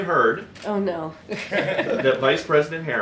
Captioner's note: laughter